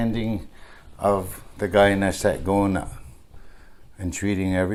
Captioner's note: speaking in Onondagan